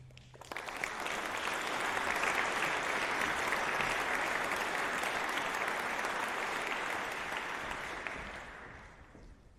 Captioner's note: applause